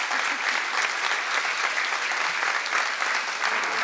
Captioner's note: laughing